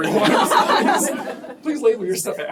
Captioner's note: laughter